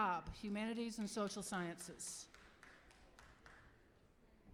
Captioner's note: applause